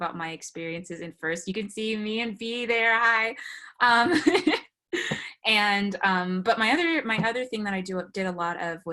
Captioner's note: laughs